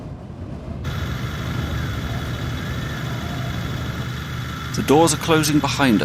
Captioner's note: heavy motor noise